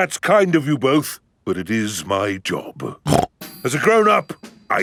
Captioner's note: snorts